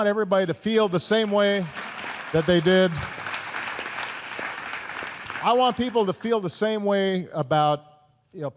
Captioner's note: applause